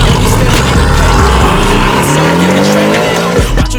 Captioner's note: car exhaust noise